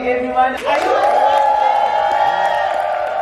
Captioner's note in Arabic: تصفيق